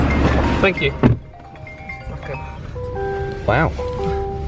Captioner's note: phone rings